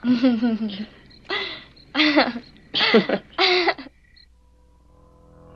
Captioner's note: giggling